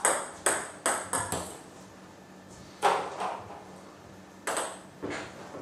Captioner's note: ball ping pong hitting continues